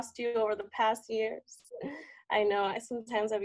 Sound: laughs

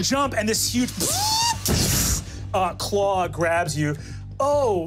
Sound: mimics electronic arm moving

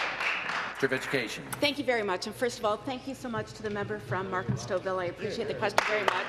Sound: applause

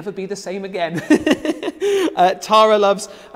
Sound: laughs loudly

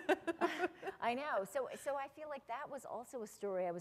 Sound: laughter

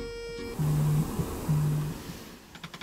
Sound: vibrate

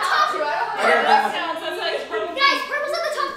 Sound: everyone talking

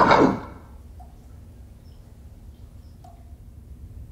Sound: water dripping

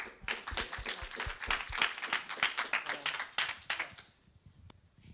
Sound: audience applauds

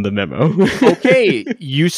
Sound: laughing

